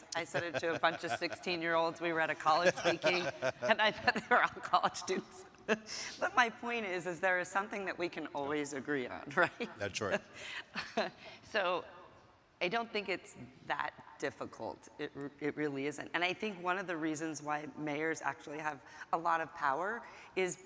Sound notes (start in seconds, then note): 0.2 laughing; 5.8 laughs; 10.7 laughing